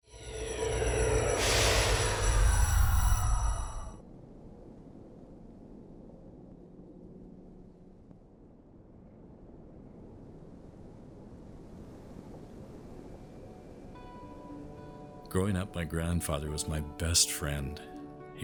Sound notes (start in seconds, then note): 0.1 technological music; 4.4 wind whispering; 12.8 gentle music